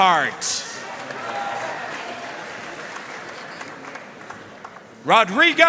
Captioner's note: audience cheering and applauding